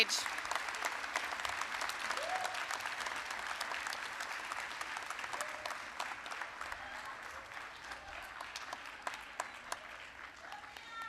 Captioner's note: applause